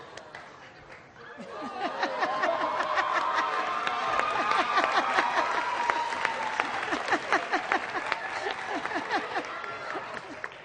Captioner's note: laughter